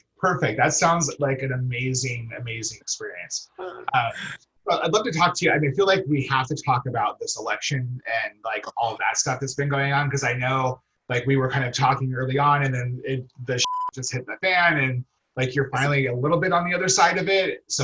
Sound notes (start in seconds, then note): 13.6 beep